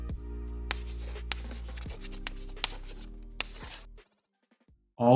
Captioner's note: chalkboard writing